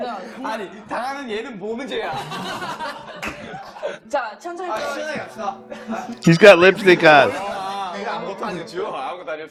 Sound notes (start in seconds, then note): 1.9 laughs